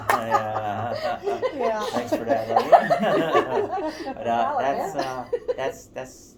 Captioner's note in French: Rires